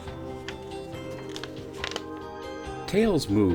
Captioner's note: manilla envelope crinkling; paper rustling